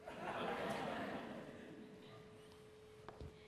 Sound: laughter

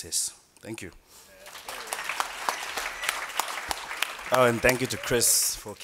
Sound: applause

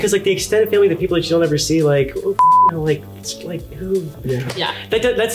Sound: beeps

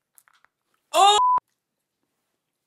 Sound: exclaiming; beep

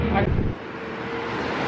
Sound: engine sound

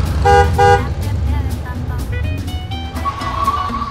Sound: bus horns

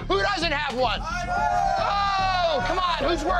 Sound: shouting

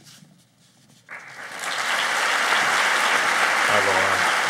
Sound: applauding

